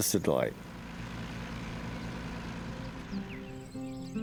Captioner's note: tractor rumbling